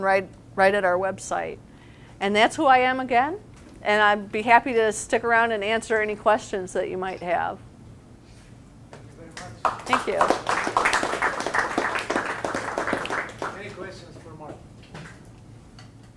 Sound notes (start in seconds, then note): 9.6 audience applause